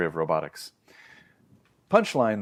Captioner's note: inhales